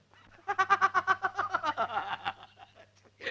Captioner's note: laughs